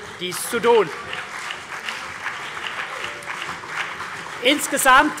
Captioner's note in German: Beifall